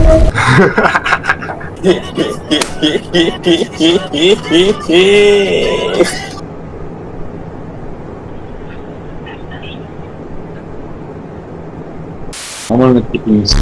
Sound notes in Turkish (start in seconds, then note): 0.2 daha garip bir gülme sesi; 0.2 gülme sesi